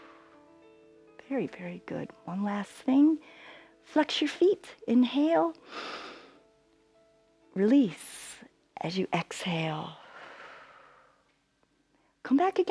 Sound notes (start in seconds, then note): 5.6 inhales; 10.0 exhales